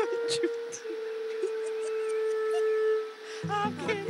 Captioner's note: Giggling